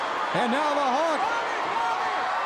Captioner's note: crowd cheering